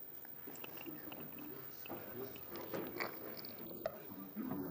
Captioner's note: chatter